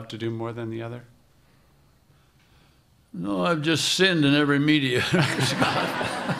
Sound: laughter

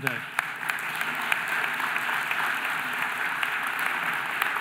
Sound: audience applauding

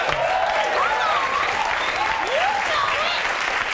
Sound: audience applauds

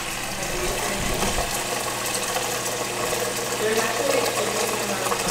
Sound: water running

